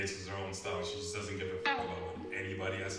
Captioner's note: sound effect